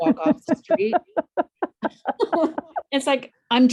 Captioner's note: laughs